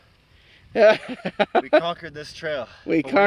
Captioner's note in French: rires